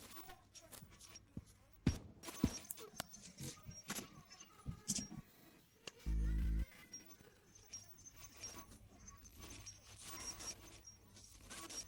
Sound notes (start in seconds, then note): 2.5 voice glitching, stuttering continuously